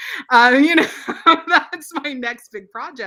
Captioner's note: laughs